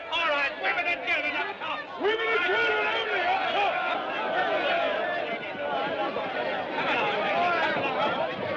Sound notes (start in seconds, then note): 4.1 Gritos, clamores